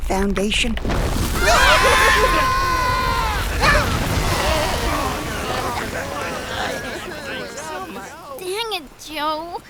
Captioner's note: everyone yelps out as they fall and impact onto the floor